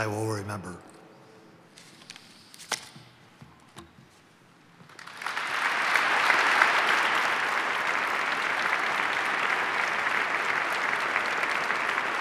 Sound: applause

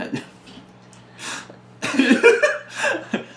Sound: bursts into laughter

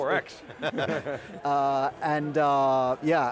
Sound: laughs

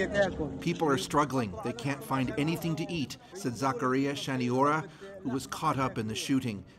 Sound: speaking alternate language

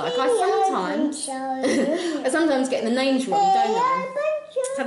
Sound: laughs

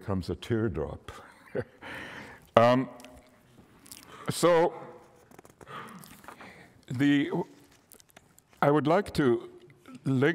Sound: laughter

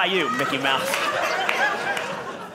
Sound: audience laughing

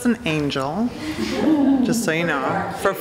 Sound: laughter

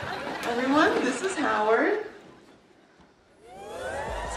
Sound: audience woos

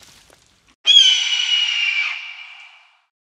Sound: bird call

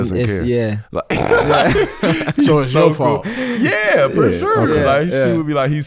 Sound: all laughing

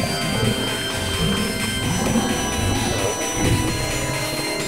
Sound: gross groaning

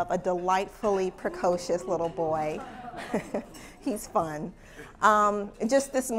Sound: laugh

